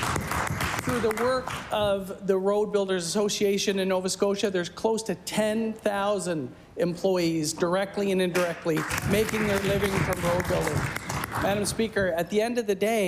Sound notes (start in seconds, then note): 3.8 applause